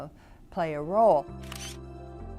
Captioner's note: camera flash